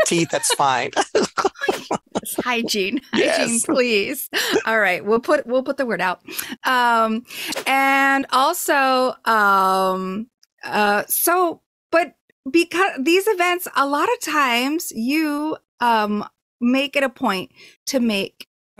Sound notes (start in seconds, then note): 0.0 laughing